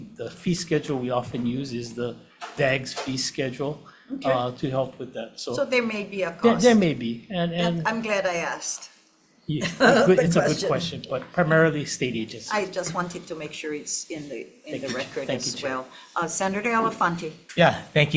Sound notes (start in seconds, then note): 9.6 laughs